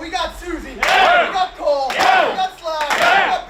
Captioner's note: players clapping